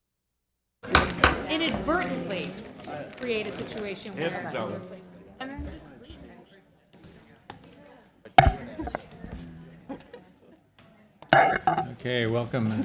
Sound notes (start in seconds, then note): 1.6 gavel